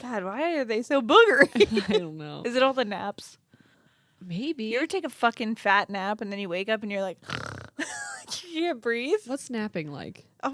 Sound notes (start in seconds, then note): 7.2 snores